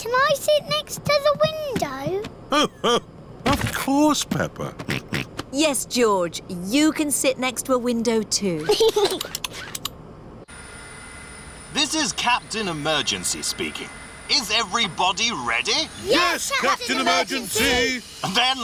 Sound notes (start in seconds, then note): 5.4 snorts; 8.6 giggles